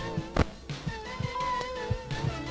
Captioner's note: radio turns on